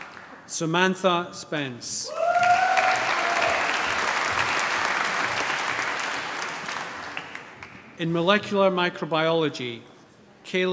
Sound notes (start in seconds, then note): 0.0 applause; 2.0 cheering, applause